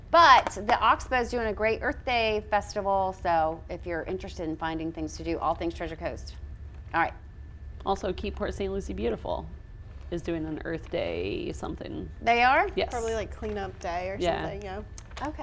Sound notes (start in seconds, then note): none